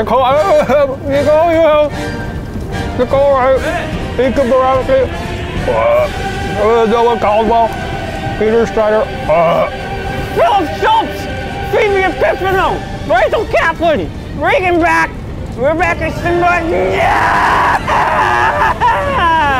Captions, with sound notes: - Nicole Abraham, Nicole Newhouse, Nicole Wright, Nikkia Borowski, (burping) Noah Caldwell, Peter Schneider. (burping) - Philip Schultz, Phoebe Epifano, Rachel Kaplan, Reagan Bach, Rebecca Szymborski, yeah! (yelling)